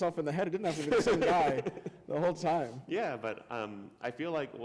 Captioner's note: laughter